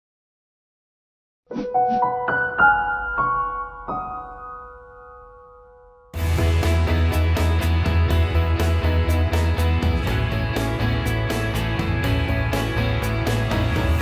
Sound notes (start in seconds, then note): 1.8 logo whooshing; 1.8 piano music; 6.1 upbeat rock music